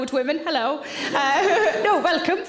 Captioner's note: audience laughs